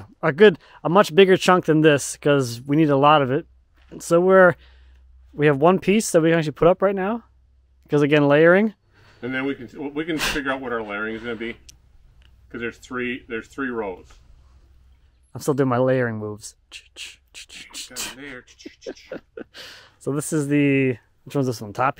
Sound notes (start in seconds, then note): 17.4 both humming; 19.4 laughs